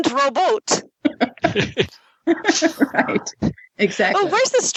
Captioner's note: laughter